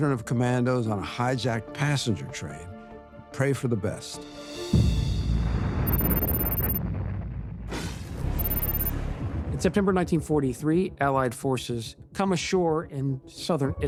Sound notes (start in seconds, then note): 4.7 explosion